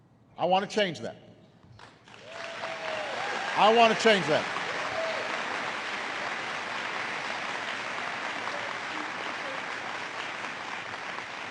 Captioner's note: applause